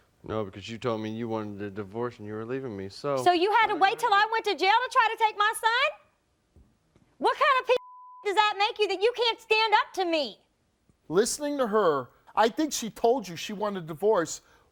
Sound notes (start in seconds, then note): 7.8 beeping